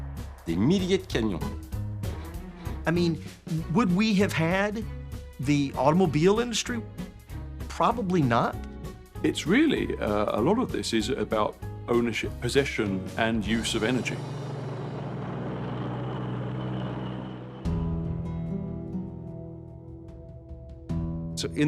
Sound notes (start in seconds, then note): 13.4 engine rumbles past; 17.5 somber music